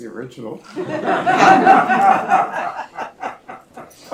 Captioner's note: applause